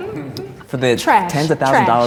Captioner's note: all laughing